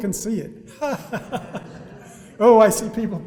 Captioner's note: all laughing